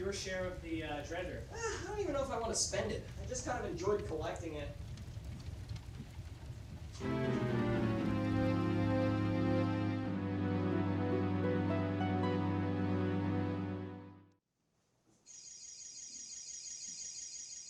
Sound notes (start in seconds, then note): 15.4 fairy Sparkle sound